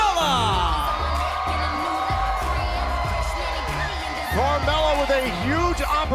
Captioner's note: crowd cheering